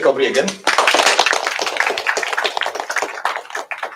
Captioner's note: applause